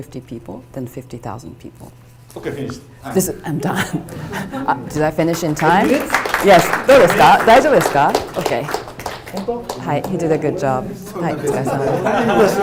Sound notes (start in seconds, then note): 6.8 audience applauding